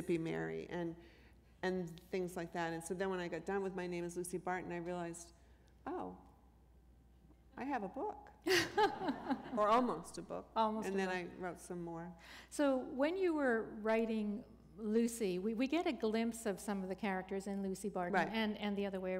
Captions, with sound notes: Mary and things like that. And so then when I got down with My Name Is Lucy Barton, I realized, "Oh, I have a book." [laughter] Or almost a book. Almost a book? And then I wrote some more. So when you were writing Lucy, we get a glimpse of some of the characters in Lucy Barton. Right.